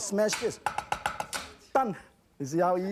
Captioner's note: chopping